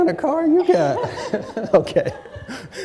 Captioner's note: chuckles